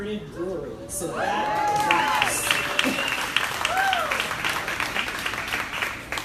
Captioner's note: crowd applauding drowns out speaker